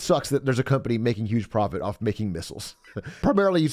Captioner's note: laughs